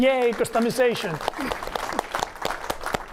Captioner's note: applause